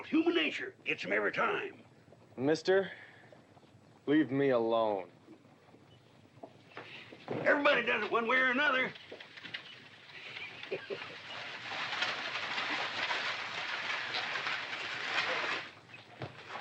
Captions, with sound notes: Human nature - gets 'em every time! - Mister...leave me alone. - Everybody does it one way or another! (scoffing) (buggy rattling)